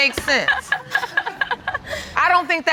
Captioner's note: audience laughing; laughing